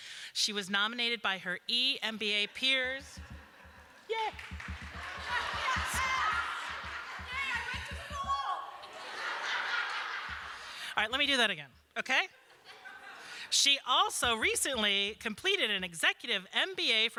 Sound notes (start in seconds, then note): 6.6 laughter; 8.8 laughter